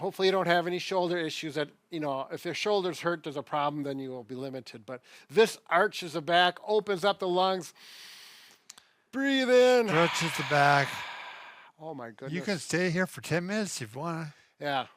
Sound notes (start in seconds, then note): 7.9 inhales; 9.8 exhales